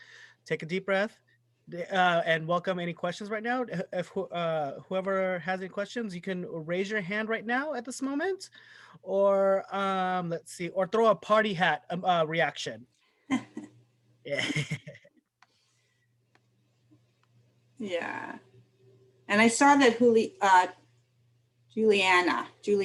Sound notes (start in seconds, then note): 14.3 laughter